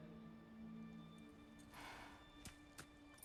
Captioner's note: sigh